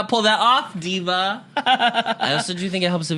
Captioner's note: giggles